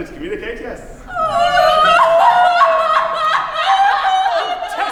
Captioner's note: Gianetta & Tessa cry